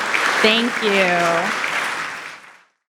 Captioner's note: audience applauding